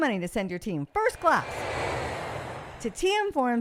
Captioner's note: plane flying sound